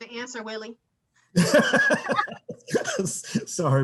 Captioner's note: laughs